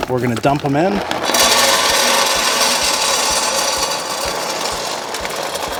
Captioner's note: pellets dropping